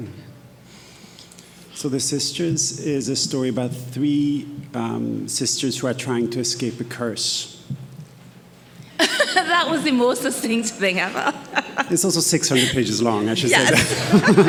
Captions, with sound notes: - So, "The Sisters" is a story about three sisters who are trying to escape a curse. - (laughs) That was the most succinct thing ever. - It's also 600 pages long, I should say that